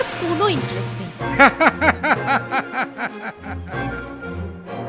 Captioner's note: laughing Madly